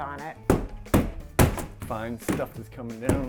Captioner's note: pounding